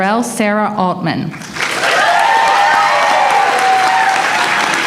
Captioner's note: applause